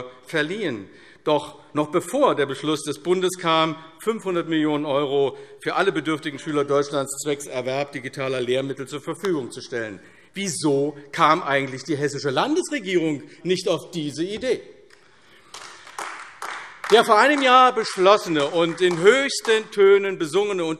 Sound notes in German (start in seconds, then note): 15.4 Beifall AfD